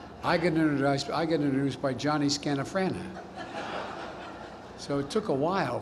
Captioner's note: laughter